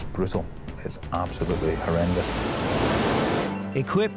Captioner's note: water surges